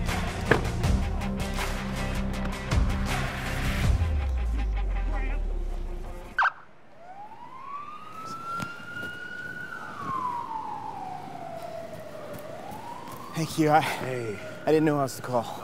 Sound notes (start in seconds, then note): 0.4 vehicle door closes; 6.3 alarm chirps; 7.2 siren wails